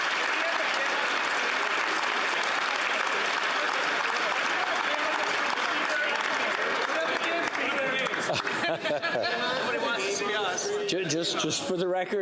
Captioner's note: applause